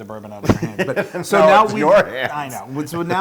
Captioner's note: laugh